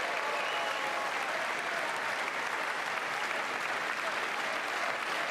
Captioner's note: applause